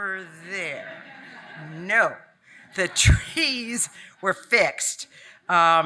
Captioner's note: audience laughing